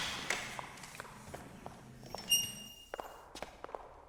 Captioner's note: footsteps tapping